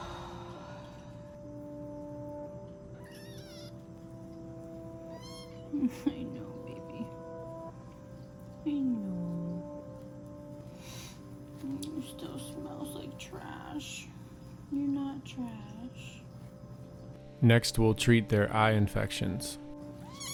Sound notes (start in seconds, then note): 0.0 woman sighs; 3.2 kitten squeals